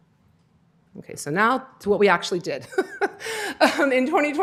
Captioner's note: laughter